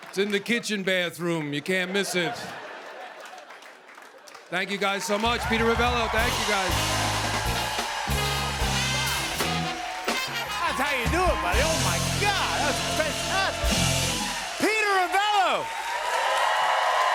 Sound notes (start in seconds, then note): 1.6 laughter; 6.9 cheers and applause; 15.4 cheers and applause